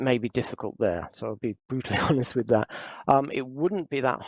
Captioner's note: laughs